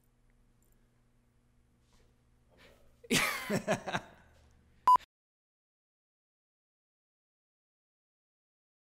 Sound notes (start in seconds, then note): 2.6 chuckles